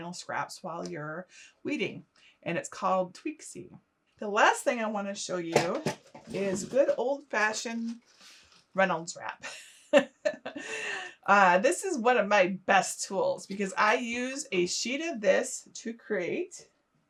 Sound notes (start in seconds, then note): 9.4 laughing